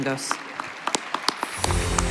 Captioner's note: applause